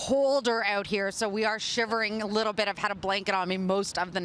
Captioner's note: crowd din